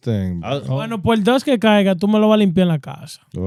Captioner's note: speaking In Foreign Language